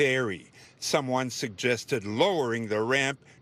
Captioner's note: speaking french